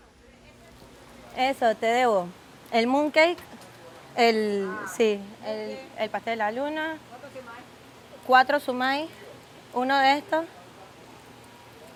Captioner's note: Spanish